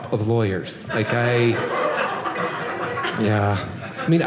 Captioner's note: audience laughing